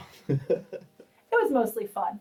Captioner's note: laughs